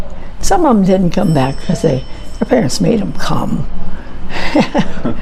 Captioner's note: chuckles